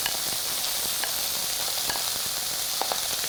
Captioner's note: pan sizzling